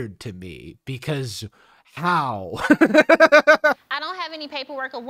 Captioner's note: laughs